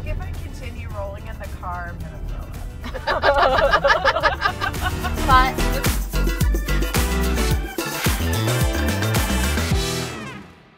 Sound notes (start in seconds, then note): 2.8 laughing; 5.5 upbeat music begins